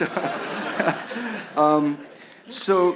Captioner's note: laughs